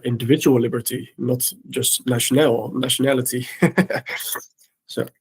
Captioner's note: laughs